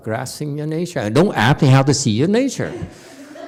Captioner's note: audience giggles